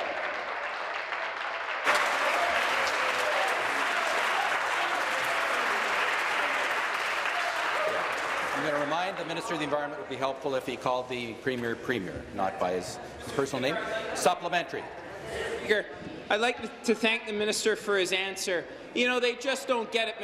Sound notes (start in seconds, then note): 1.9 applause